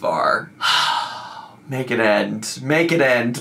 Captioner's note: exhales deeply